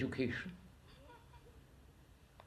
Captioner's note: laughs